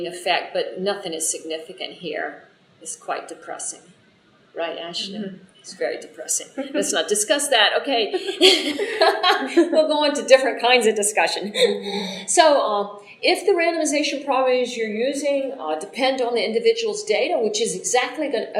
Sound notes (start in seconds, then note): 8.1 laughter